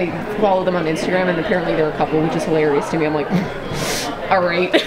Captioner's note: snort